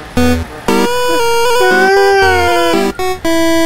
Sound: gasps in disbelief

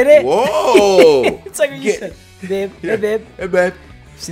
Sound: laugh

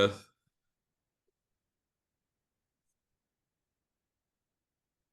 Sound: audio cuts out

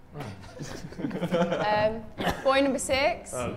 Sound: Sidemen chuckle

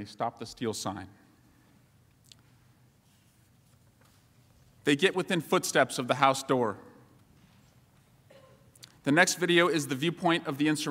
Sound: silence

